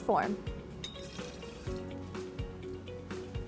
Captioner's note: liquid pours